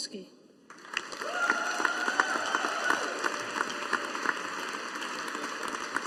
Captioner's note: audience applauding